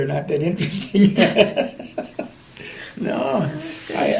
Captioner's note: laughter